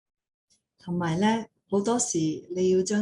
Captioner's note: speaking in foreign language; non-english speech